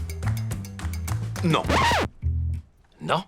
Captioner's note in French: record scratch